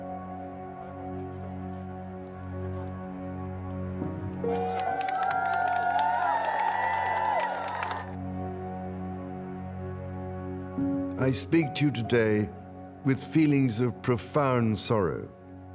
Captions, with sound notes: (crowd cheering) (crowd applauding) - I speak to you today with feelings of profound sorrow.